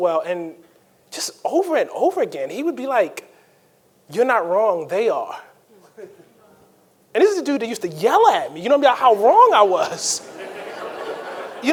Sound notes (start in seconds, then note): 5.8 panelist chuckles; 9.8 audience laughing